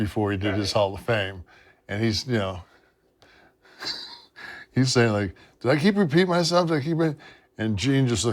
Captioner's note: laugh